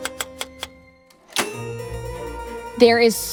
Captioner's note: typewriter clacking